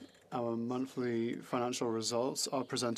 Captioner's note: speaking French